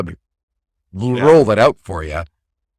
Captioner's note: laughs